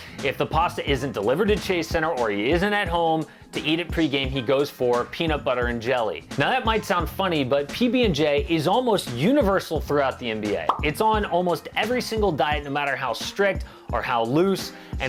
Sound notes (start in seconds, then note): 10.6 pop